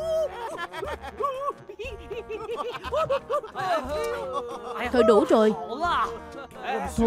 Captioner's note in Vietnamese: Tiếng cười